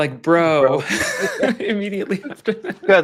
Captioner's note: laughter